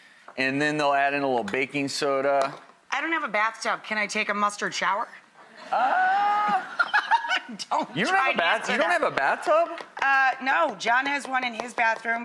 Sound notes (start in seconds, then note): 6.6 audience laughs